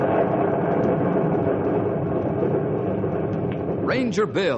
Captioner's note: thunder